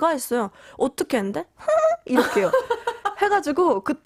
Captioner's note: giggles